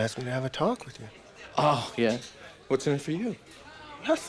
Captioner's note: scoffs